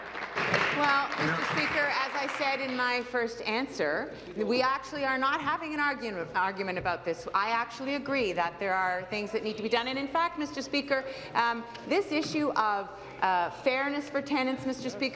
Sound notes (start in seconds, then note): 3.0 applause